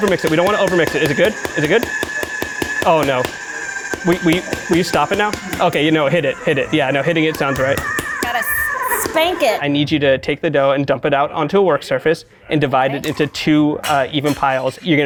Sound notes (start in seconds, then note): 2.8 food processor whirs